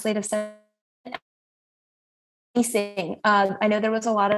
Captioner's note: audio cuts out